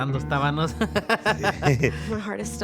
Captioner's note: laugh